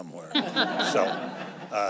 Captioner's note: laughter